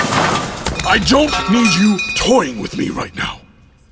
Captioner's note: firm, panting